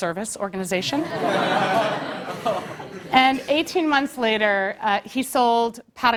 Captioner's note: laugh